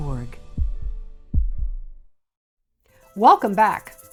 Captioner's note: heartbeat